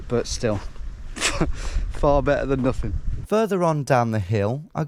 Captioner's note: chuckles